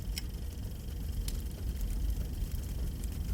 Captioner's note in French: crépitement de feu